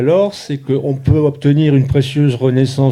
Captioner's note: speaking in French